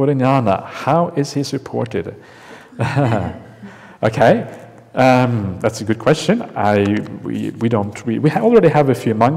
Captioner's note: chuckles